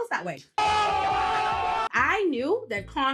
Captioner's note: crowd cheering